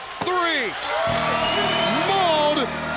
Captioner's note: bell ringing